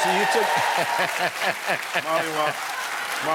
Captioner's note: laugh